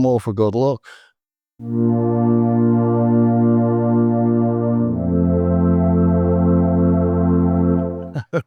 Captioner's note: laughs